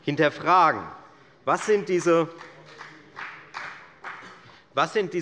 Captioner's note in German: Beifall bei der FDP